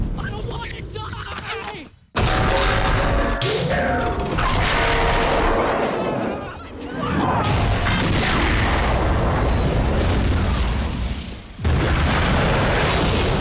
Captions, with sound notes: - I don't want to die! (train carriages colliding) (train exploding)